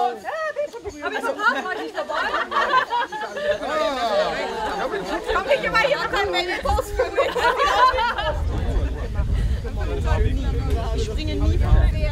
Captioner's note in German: Stimmengewirr